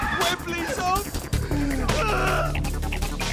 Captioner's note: desperate sobbing